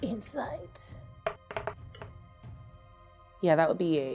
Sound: dice rolling

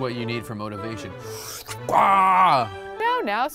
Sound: imitates sucking noise

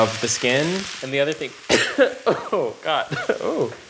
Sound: coughing

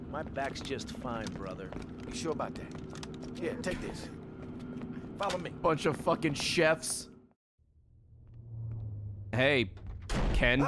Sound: laughs

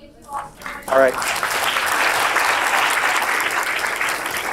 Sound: applause

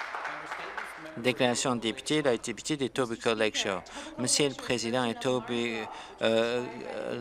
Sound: some applause

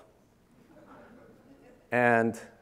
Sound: audience laughing

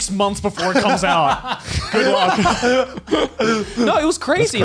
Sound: laughs

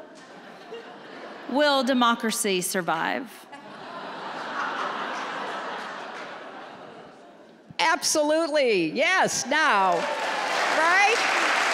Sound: laughter; applause

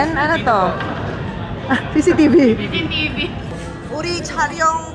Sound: laughs

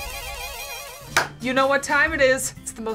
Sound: upbeat jazz music; claps

